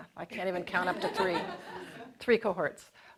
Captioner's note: audience laughing